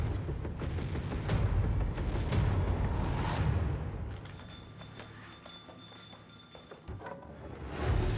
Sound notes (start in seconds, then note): 4.3 jingling